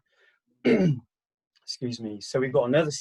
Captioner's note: clears throat